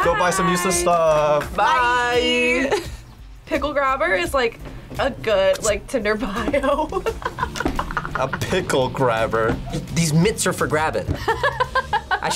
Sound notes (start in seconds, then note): 6.3 laughs; 11.1 laughs